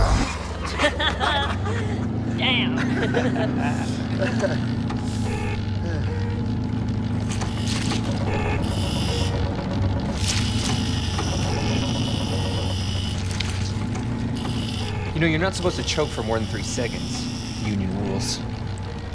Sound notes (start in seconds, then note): 0.6 laughter; 5.3 machine beeping